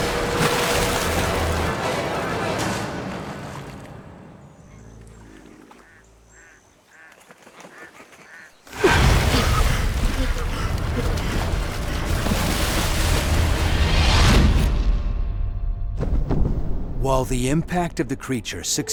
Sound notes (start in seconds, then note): 6.3 duck quacking; 8.9 panting